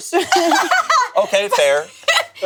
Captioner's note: laughs